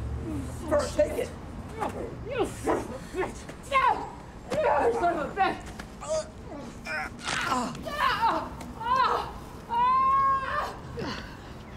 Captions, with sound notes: - Fern, take it! - You son of a bitch! No! You son of a bitch! - [snaps] - [screams] [groaning]